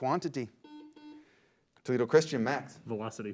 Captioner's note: beep